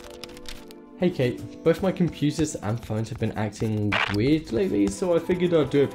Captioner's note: slender static effect